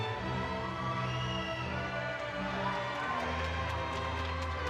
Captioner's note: audience cheering